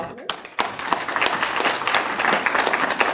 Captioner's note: applause